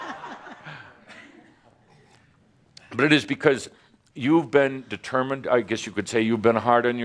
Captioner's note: laughter